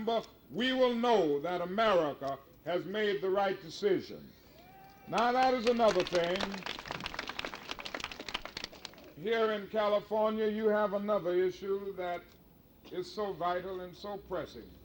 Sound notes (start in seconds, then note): 6.7 crowd clapping